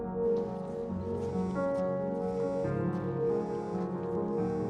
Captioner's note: phone buzzing